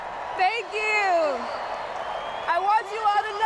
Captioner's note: crowd cheering